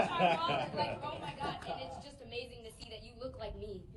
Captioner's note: laugh